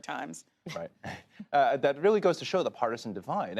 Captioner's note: chuckles